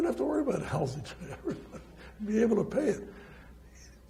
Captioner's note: laughs